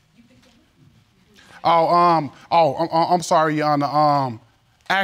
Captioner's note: stammers